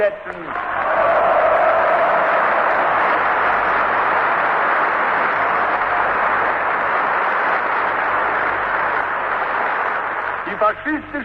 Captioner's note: applause